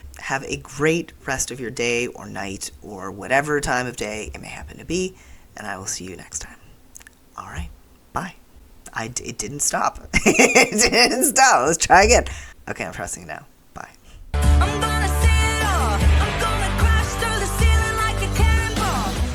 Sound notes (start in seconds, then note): 10.1 laughter